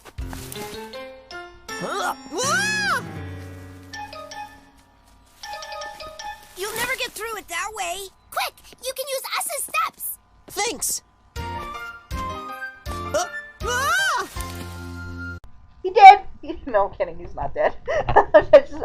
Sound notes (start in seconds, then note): 0.0 rustling; 1.7 grunts; 3.1 rustling continues; 14.2 rustling; 18.1 laughing